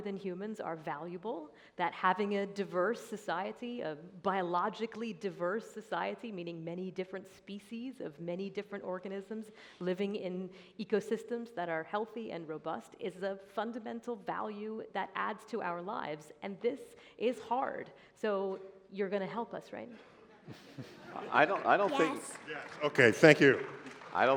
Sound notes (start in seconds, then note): 20.0 laughter